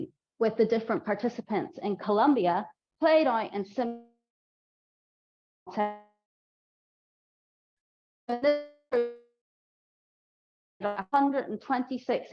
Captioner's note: lost audio